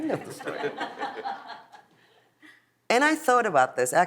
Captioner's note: audience laughs